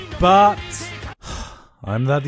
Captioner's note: sigh